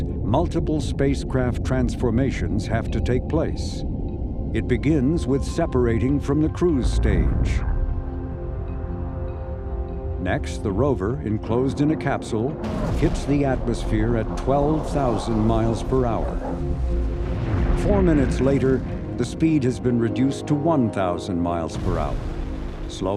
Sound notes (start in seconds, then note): 7.6 tension music; 16.5 roaring rocket